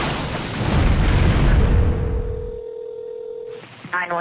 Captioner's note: telephone rings